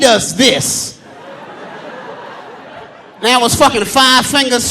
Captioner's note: audience laughing